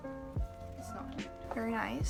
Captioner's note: murmurs